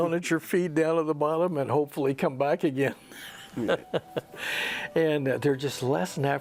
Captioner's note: laughs